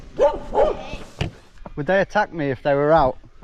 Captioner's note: dogs barking